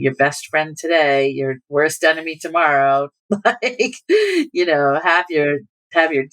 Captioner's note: laughter